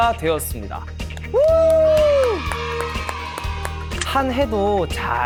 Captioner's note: a big round of applause